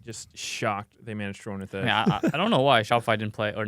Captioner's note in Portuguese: risos